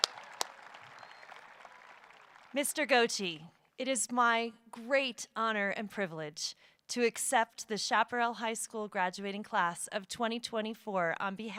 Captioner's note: applause